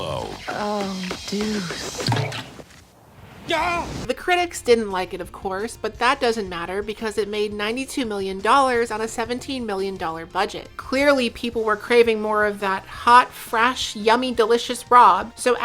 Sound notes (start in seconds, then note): none